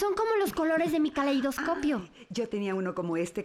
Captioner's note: gasps